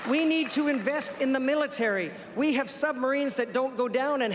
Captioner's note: applause